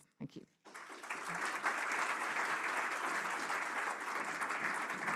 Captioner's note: applause